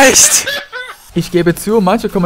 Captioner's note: laughs